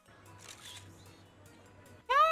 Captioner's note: camera shutter